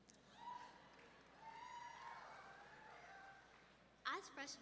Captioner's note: audience whooping